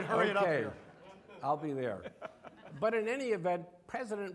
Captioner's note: audience laughing